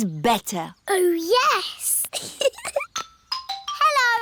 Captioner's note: giggles